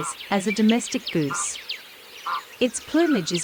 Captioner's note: cape barren sound